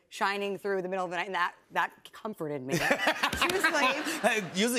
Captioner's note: laughter